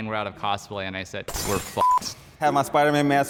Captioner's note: beep